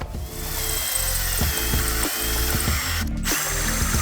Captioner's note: tool whirs